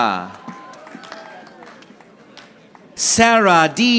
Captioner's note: audience applauding